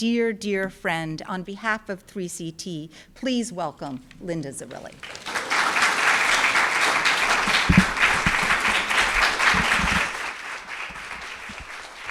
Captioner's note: applause